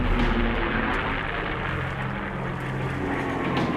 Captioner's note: planes whir